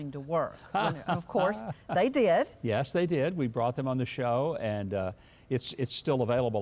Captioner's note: laughs